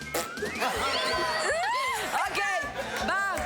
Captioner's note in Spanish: Hace ruido con la boca